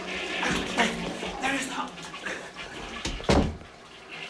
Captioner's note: grunts